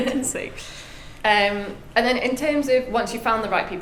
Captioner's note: laughs